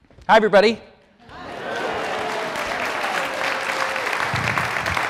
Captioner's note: audience applaud